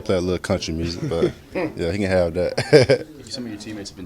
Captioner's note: laughter